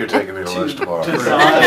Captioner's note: laughter